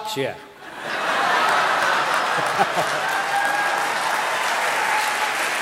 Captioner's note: audience laughing and applauding